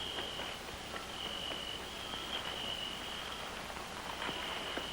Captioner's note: crunching